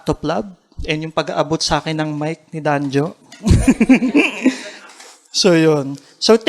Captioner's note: chuckles